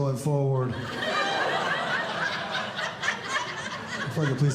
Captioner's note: audience Laughing